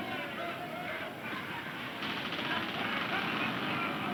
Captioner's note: men laughing